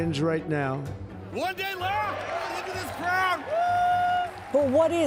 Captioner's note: cheering